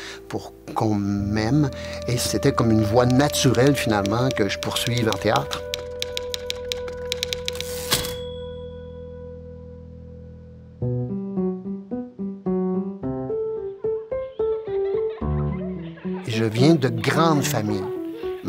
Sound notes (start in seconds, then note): 6.3 typewriter clicking; 7.9 typewriter dinging; 13.8 children laughing